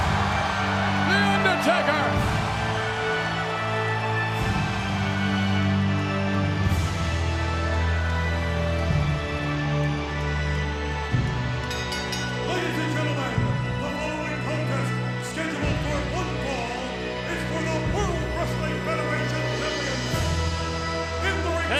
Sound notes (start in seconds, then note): 0.1 audience cheers; 3.5 ominous music continues; 11.6 bell rings